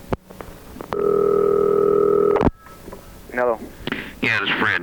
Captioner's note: dial tone ringing; phone ringing